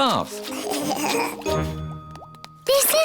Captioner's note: giggling